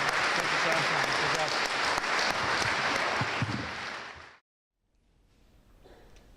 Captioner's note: drowned out by audience applauding